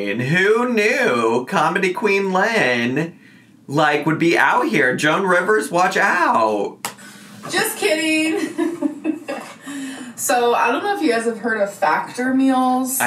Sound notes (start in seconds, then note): 8.3 chuckles